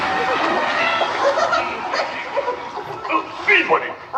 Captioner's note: chuckles